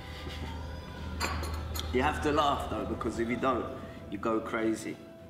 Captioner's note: laughs